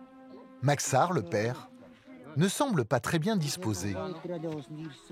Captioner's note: foreign spoken audio